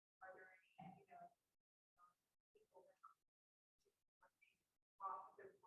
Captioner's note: voice muffling